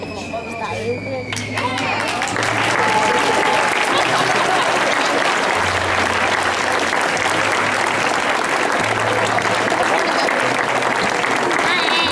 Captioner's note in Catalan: Aplaudiments